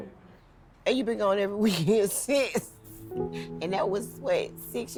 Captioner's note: laughs